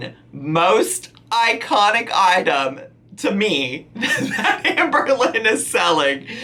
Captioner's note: laughing